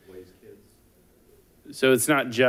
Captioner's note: person speaking off mic